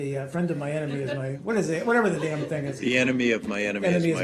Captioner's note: laughter